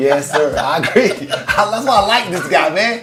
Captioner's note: laughs